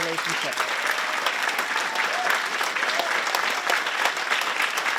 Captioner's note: applause